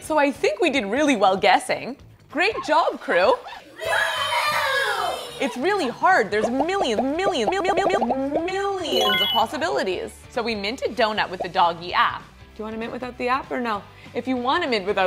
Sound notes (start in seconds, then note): 3.8 kids cheer